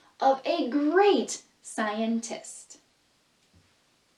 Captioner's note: none